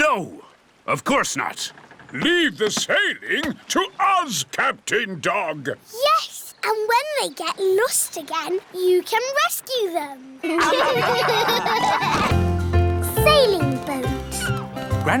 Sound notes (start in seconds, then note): 10.4 all laughing